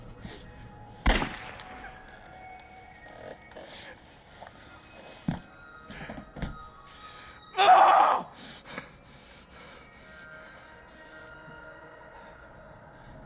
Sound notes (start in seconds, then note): 7.5 DeHart screaming; 10.4 somber music